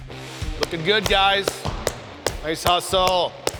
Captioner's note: enthusiastic sports dad clapping